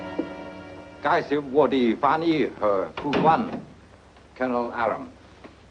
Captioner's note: speaks foreign language